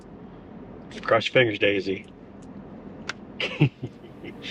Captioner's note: laughs